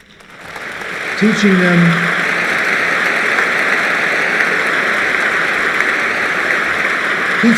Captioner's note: applause